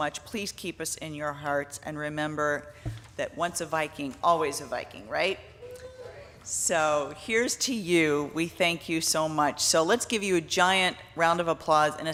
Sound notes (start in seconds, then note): 5.7 audience cheering